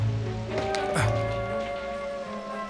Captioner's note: Bruno jadea